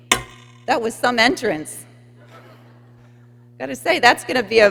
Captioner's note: people laughing